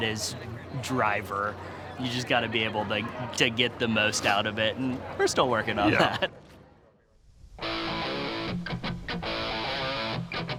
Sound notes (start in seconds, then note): 5.8 laughs